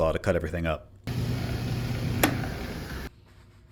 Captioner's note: saw whirring